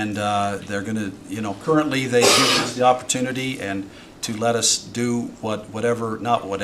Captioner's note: snorts